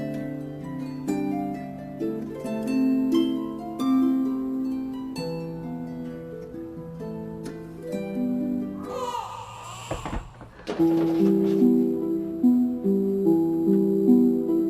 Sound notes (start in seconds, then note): 8.8 baby crying; 10.9 mysterious music